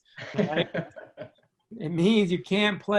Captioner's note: laughs